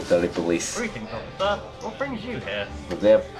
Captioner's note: awful Voice